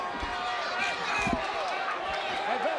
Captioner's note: crowd yelling